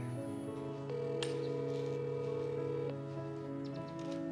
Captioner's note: phone ringing